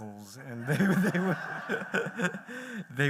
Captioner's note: laughter